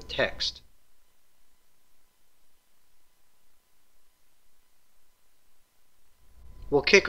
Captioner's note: pause